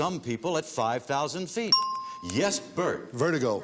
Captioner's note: ting